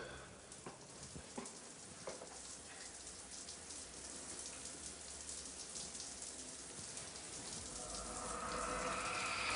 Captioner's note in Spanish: Ruido de la regadera